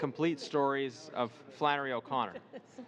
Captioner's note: laughter